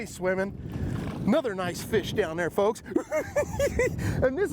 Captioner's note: laughs